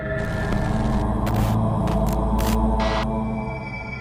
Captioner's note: creepy moaning